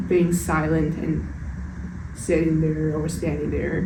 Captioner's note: none